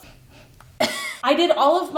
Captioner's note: sniffs and coughs